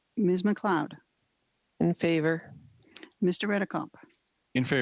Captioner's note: speaking FRENCH